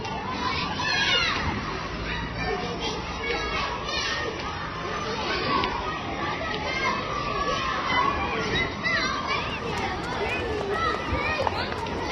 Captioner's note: kids noises